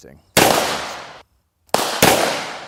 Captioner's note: gun shooting